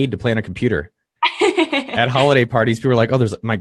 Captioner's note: laughing